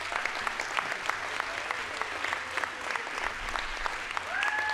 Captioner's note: audience applauds